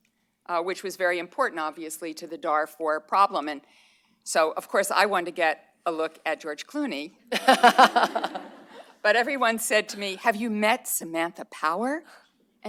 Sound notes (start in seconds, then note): 7.3 laughter